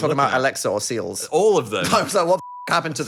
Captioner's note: beep